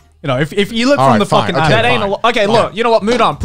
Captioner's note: murmurs